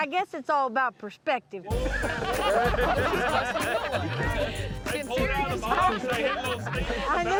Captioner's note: all laughing